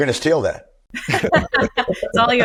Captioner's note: laughs